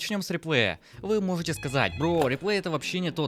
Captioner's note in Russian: Звонок